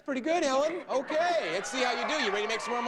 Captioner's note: audience laughing